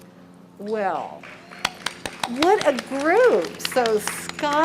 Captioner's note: applause